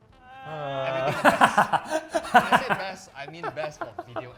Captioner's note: cracks into laughter